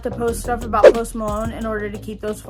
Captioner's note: air whooshes